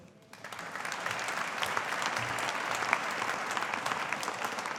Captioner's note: audience applauding